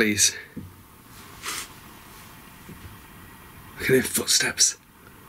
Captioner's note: gentle thudding